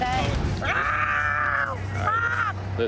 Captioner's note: screams